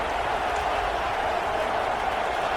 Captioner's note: crowd Noises